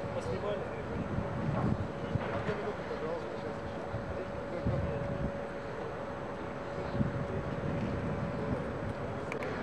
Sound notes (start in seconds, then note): 1.8 chatter